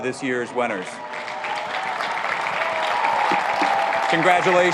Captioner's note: applauding